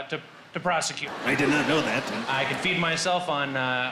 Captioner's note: crowd laughing